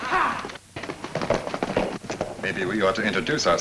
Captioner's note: men shout